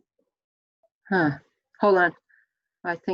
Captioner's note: sighs